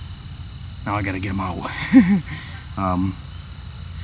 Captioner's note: laughs